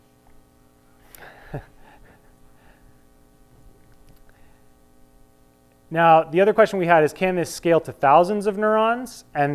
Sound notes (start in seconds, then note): 1.2 chuckles